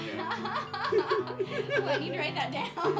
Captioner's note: laughing